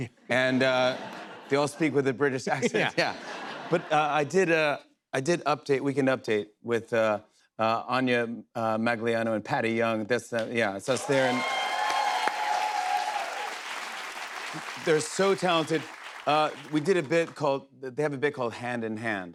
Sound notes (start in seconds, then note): 2.5 laughter; 10.9 cheers and applause